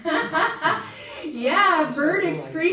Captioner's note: laughs